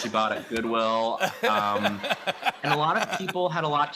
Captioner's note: laughter